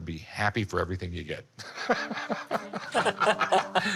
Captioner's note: laughter